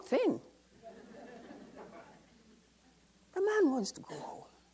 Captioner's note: audience laughs